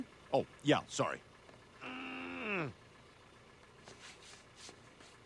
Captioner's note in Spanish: Brian gruñe